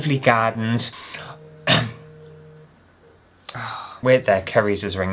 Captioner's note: phone Vibrating